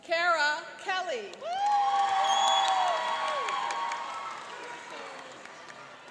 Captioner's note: cheering and applauding